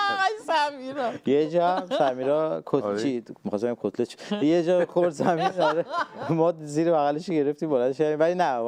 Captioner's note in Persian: خنده